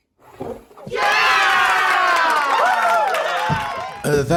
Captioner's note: crowd Cheers